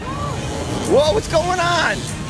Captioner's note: electricity crackles